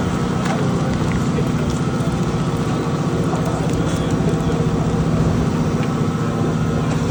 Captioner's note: car engine humming; people chattering; gravel crunching